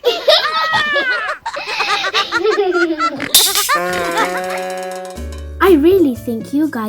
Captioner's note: laughs